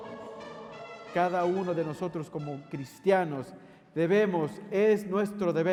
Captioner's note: bishop preaching in Spanish